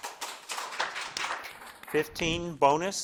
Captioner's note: crowd claps